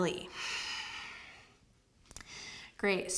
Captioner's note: exhales